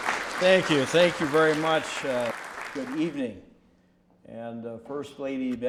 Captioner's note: applause